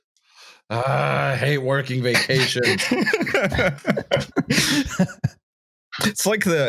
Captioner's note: laughs